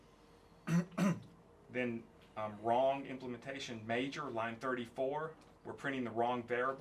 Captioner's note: cough